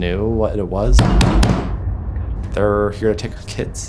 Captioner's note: pounding on door